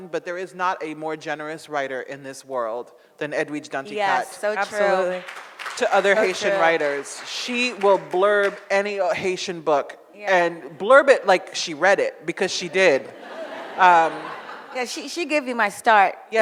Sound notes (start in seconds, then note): 12.5 audience laughs